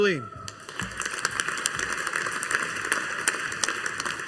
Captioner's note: audience applauding